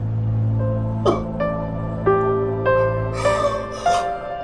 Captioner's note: crying